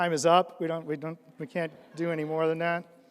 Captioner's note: audience laughs